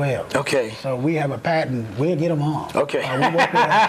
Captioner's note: okay laughter